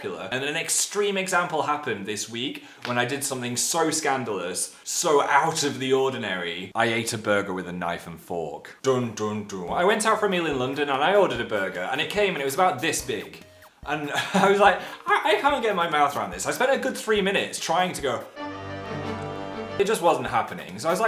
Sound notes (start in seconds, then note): 14.1 chuckle; 18.2 suspenseful music